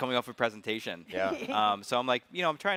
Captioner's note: chuckles